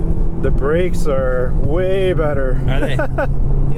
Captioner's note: laughs